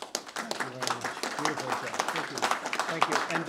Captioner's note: applause